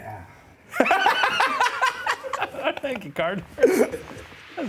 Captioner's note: laughs